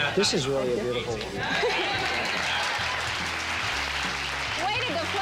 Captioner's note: cheers and applause